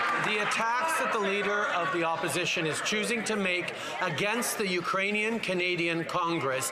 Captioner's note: some Applause